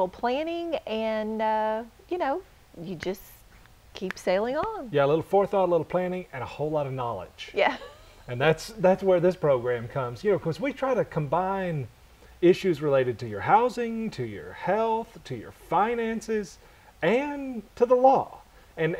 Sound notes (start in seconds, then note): 7.8 chuckle